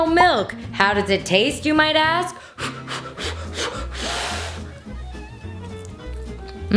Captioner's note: blowing loudly